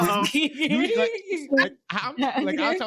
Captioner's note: laughing